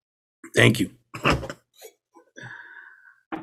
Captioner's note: chuckles